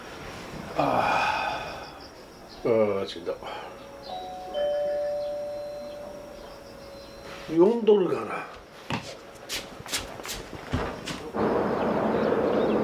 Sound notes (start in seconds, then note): 4.0 chime